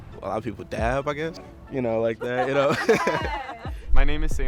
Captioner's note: laughs